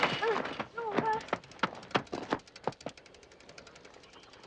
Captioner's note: moaning